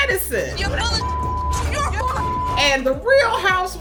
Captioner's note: beep